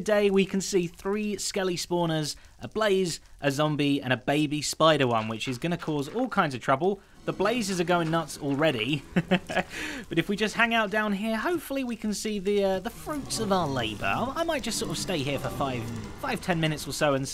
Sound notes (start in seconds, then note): 8.8 chuckles